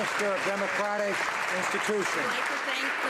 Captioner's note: some Applause